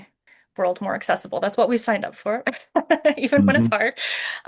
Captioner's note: laughs